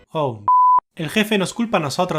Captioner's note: beep